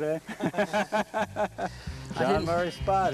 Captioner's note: laughter